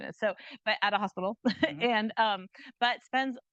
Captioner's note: chuckles